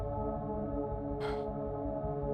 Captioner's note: Straga Sighs